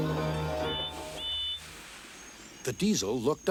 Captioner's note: toot toot